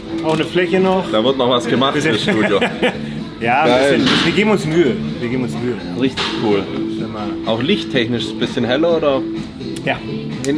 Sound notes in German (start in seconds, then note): 1.6 gelächter; 4.5 schnauben